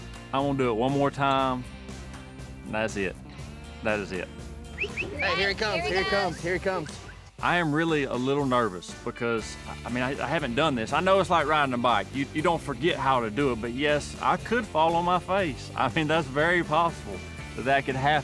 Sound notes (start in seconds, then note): 4.7 whistling